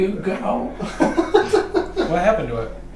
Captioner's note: laughing